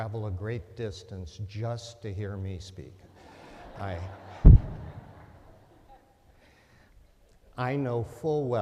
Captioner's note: laughter